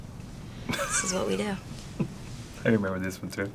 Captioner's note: laughs